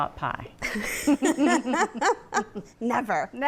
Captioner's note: both laugh